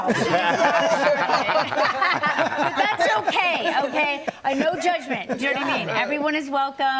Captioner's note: laughter